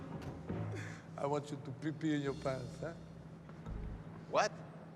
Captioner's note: laughs